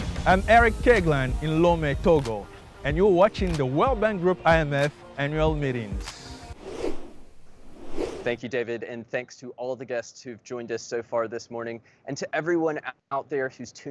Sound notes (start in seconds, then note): 0.1 upbeat music; 6.5 whoosh transition sound effect